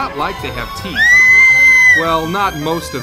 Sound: scream

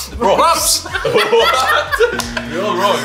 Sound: people laugh

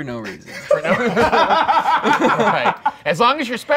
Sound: laughing

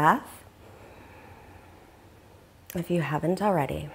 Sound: inhaling deeply

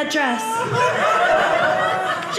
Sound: audience laughing

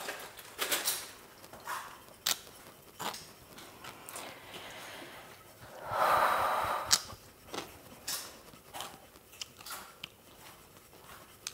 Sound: chews loudly

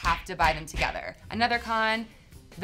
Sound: fist punches

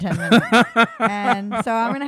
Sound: laughing

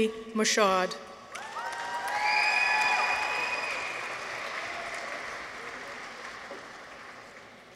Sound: people cheer; audience applauds

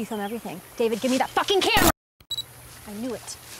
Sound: camera beeps on

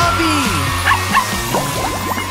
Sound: barking

